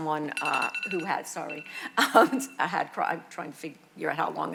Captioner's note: phone ringing